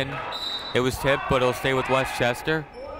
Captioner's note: whistle tweeting